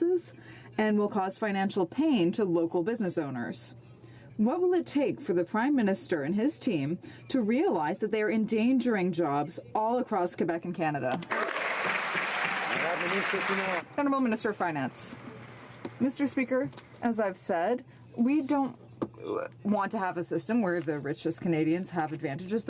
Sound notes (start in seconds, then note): 14.7 some Applause